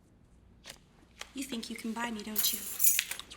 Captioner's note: keys jangling